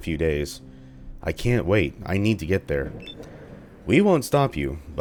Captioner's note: thunder